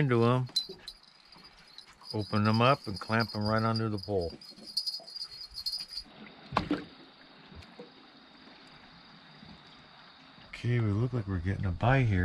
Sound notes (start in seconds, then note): 6.5 thunk